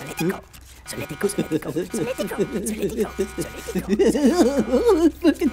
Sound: giggling

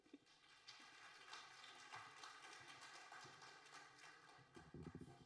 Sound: audience applauding

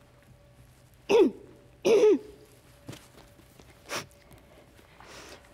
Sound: Schwonder softly clearing throat

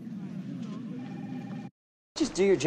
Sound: phone rings

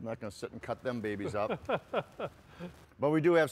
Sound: laughs

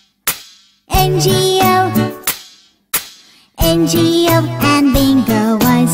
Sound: clap; clap

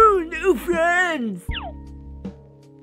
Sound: squeaks again

